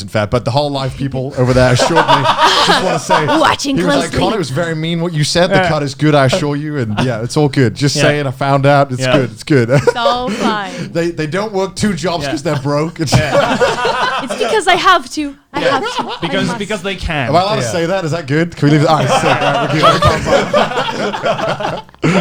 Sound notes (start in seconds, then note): 9.6 laughs; 12.2 laughs; 18.6 laughs